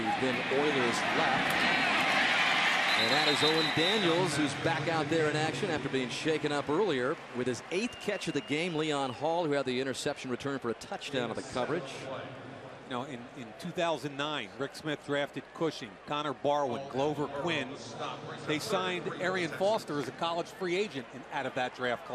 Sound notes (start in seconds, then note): 2.4 cheering; 12.5 pa announcement